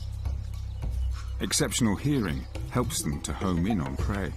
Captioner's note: birds chirping